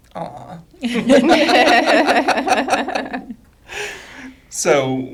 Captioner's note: group laughing